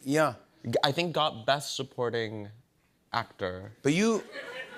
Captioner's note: laughter